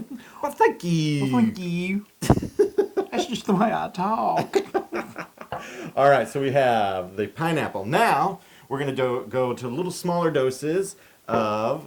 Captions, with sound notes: Why thank you. >> Why thank you. >> [LAUGH] >> That's just the way I talk. >> [LAUGH] All right, so we have the pineapple. Now, we're going to go to little smaller doses of,